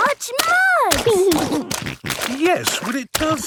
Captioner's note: snorting